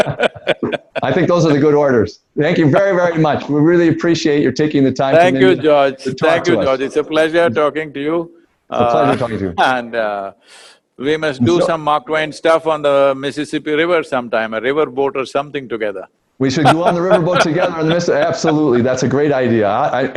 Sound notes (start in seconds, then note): 16.5 laughs